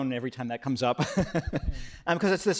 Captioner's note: laughs